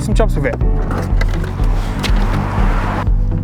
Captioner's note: case clattering; shoes shuffling; upbeat music